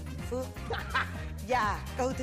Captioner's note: laughing